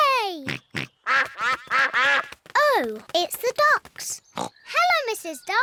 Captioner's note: quacking